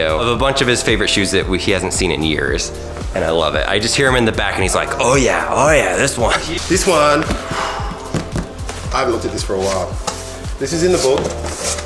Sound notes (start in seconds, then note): 7.3 exhales loudly